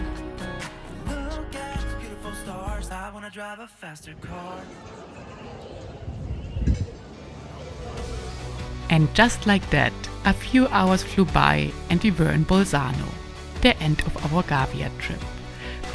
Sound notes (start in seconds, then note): 4.2 people chattering